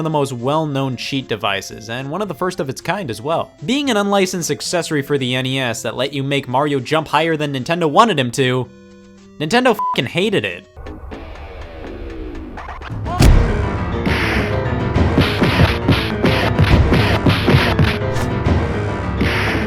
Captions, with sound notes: of the most well-known cheat devices and one of the first of its kind as well. Being an unlicensed accessory for the NES that let you make Mario jump higher than Nintendo wanted him to, Nintendo (beep)ing hated it. (suspenseful music)